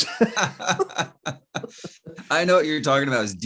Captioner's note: both laughing